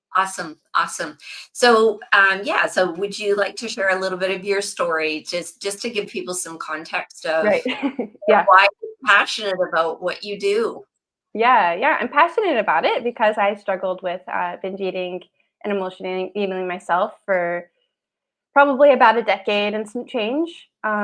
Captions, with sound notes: Awesome. Awesome. So, um, yeah. So, would you like to share a little bit of your story just- just to give people some context of- Right. (laughs) Yeah. ... why you're passionate about what you do? Yeah. Yeah. I'm passionate about it because I struggled with, uh, binge eating and emotional eating myself for probably about a decade and some change.